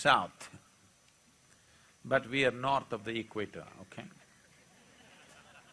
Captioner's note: laughter